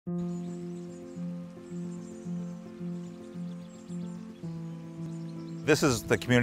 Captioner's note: birds chirping; gentle music